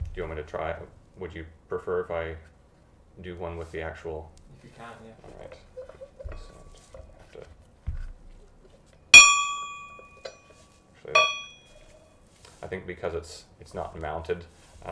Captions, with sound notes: Do you want me to try, would you prefer if I do one with the actual clapper - If you can... - All right, so I'll just have to-- (bell gently chimes) Actually, I think because it's not mounted,